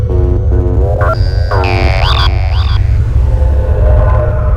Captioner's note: beeping